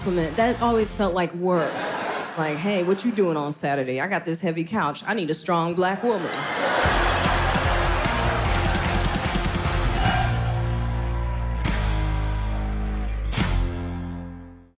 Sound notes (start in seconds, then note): 1.5 laughter; 6.2 cheering; 10.0 applause